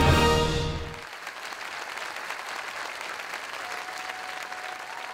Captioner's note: audience applauding